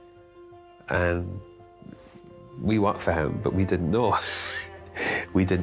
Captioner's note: laughs